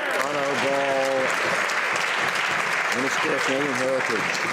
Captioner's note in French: voix de l'interprte